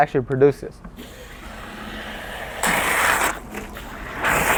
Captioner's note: water gushes